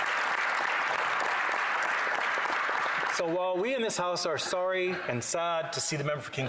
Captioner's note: applause